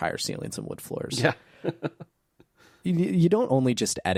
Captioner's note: laughs